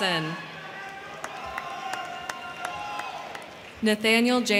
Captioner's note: crowd cheering; crowd clapping